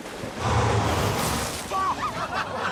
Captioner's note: laughter